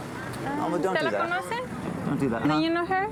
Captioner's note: spanish